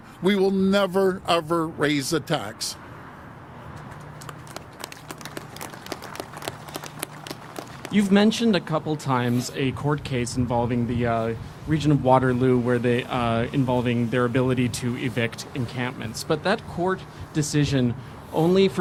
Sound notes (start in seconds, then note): 4.1 applause